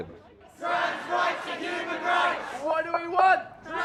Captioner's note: chanting